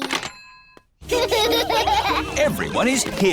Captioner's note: children laughing